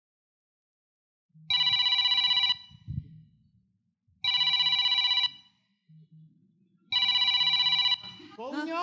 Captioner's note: annoying cell phone ringing